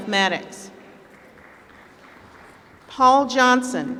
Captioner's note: applause